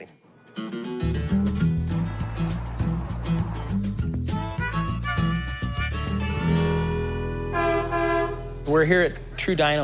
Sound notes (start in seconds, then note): 7.4 horn honks